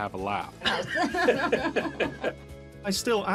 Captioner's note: laughs